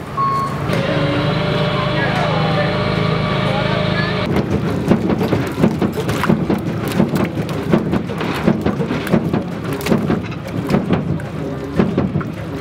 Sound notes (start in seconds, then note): 4.8 mud sloshing; 4.8 truck chugging